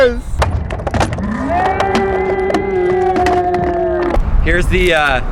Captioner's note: slow motion yelling